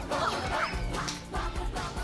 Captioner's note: crack up